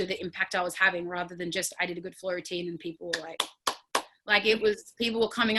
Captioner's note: claps